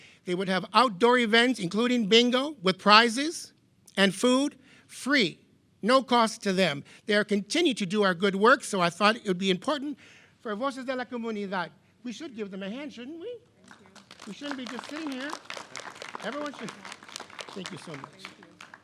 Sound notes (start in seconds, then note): 10.6 speaking in foreign language; 15.7 members clapping